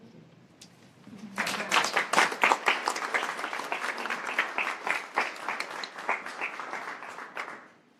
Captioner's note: applause